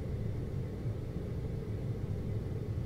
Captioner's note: air conditioning